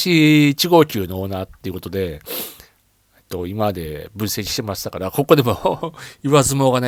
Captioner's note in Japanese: 鼻息